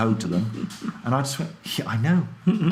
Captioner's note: laughs